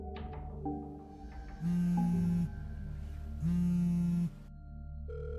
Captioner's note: phone vibrating